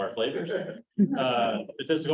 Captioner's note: chuckles